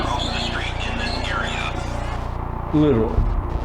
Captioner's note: police radio chatter